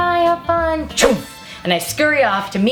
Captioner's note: swish noise